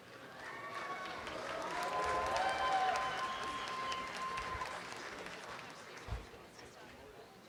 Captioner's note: audience applause